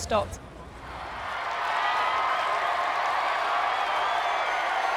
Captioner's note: crowd cheers